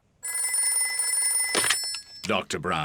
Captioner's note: beeping; phone rings